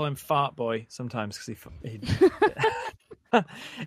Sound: laughs

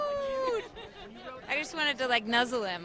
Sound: interviewer laughing

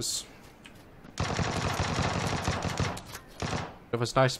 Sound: distant gunfire

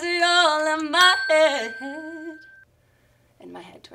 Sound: bell rings

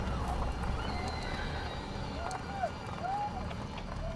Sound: screams

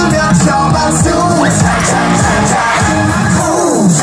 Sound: loud cheers

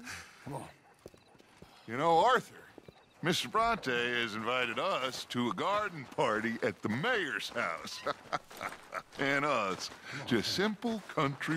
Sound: laughs

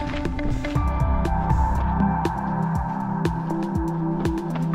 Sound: footsteps crunching

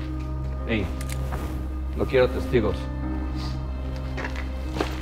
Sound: speaking in Spanish

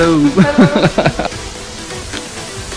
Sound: laughs

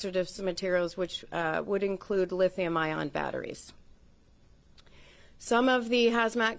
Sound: HABLA EN INGLéS

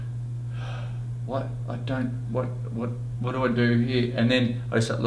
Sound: sighs

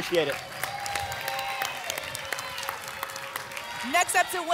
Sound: applause and cheering

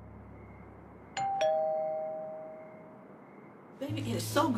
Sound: doorbell rings

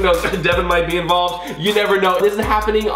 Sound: coughs

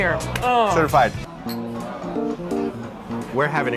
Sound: clap; glasses touch

